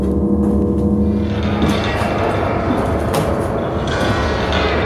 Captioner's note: eerie creaking